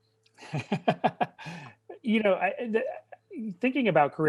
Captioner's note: laughing